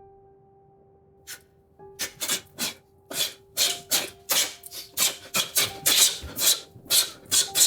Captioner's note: blows air